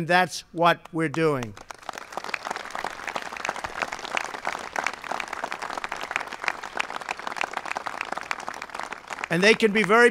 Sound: applause

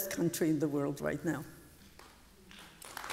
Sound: applause

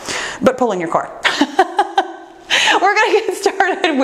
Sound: laughs

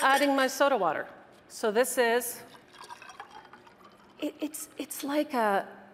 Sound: water spluttering

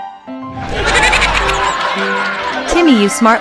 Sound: laughter

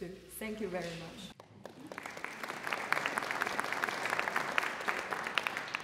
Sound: applause

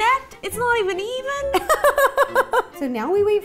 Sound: giggles

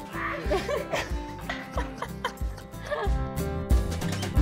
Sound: laughing; warm violin music

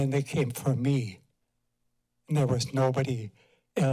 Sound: pause

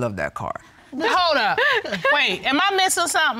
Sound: laughs

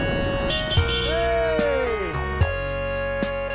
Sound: car horns

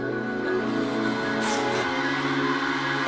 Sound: sniffles

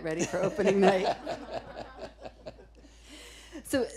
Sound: laughing

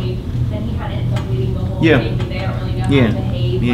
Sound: student off mic

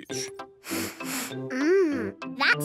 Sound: sniffs

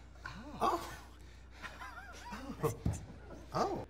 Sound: laughter

